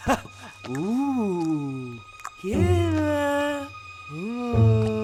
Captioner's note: speaks gibberish